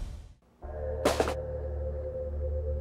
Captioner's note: thud